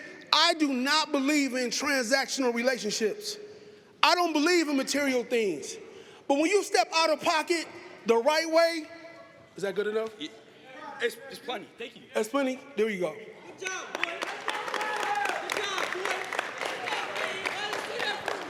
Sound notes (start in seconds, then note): 13.7 applause